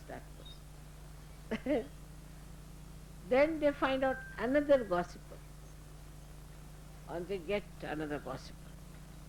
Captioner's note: Shri Mataji laughing